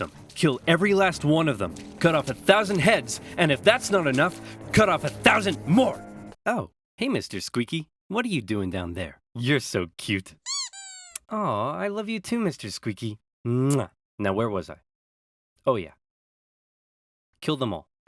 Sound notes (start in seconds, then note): 10.4 squeezes duck